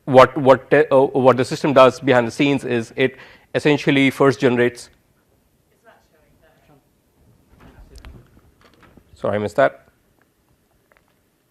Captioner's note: pause